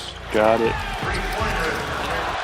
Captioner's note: crowd cheers